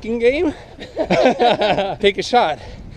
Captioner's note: laughing